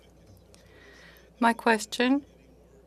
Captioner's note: speaking in French